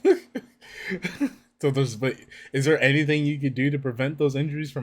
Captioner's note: laughs